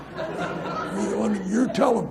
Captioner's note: audience laughs